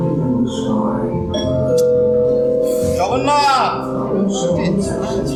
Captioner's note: door bell